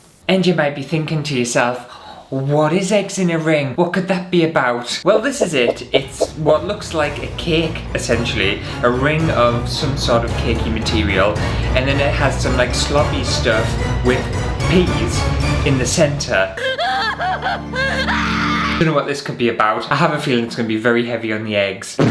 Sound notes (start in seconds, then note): 16.6 hysterical Crying